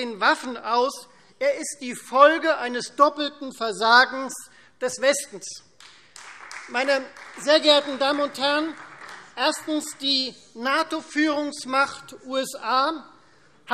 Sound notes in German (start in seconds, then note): 5.8 Beifall Freie Demokraten